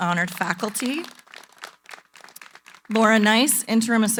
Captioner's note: applause